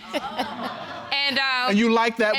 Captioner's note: audience laughing